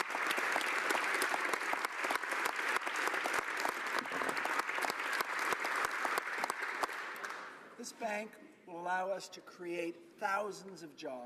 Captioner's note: applause